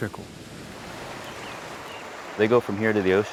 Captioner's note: water roaring